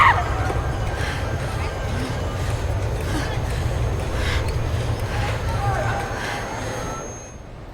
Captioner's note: screams, overwhelmed with anger; labored breathing